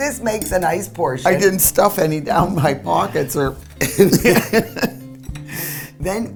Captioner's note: laughter